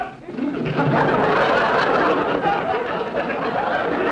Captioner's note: audience laughter